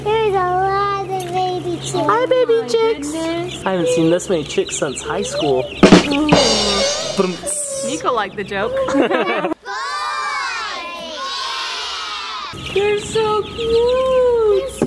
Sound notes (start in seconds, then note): 5.2 drums banging; 8.8 laughter